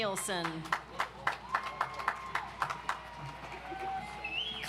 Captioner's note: audience applauds